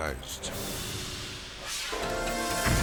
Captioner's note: scene swooshing; explosion booming